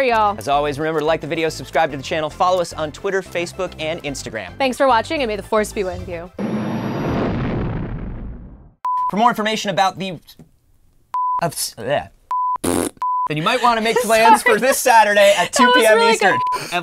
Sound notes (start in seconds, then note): 5.9 engines roaring; 10.5 stuttering; 12.6 blows raspberry; 13.3 laughs